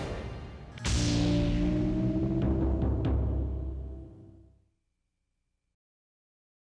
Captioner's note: smooth music; logo swooshing